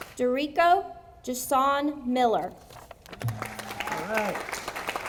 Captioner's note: audience applauding